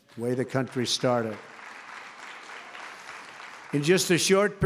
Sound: applause

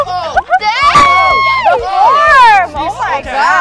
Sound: judges exclaiming

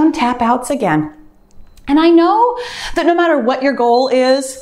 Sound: timer beeps

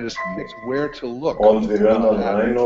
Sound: audio interference

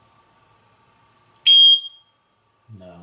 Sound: beep!

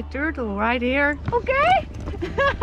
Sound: laughing

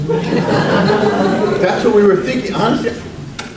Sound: audience laughs

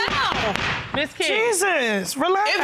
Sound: gavel bangs

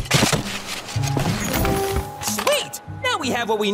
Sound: axes banging

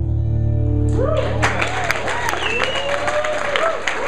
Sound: applause

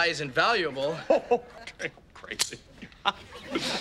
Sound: chuckling

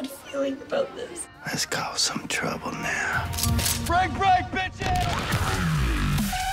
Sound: gun clicking

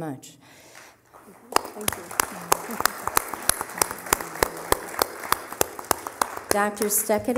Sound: applause

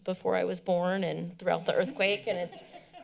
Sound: laughter

